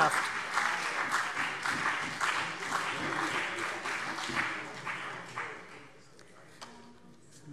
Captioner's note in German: Beifall CDU und BÜNDNIS 90/DIE GRÜNEN